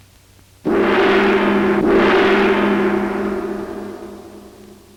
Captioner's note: gong chiming